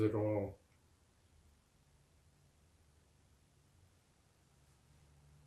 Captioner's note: pauses 4 seconds